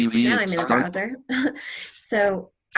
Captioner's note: laughter